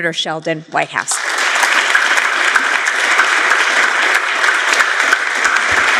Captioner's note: applause